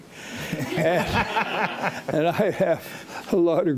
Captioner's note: audience laughing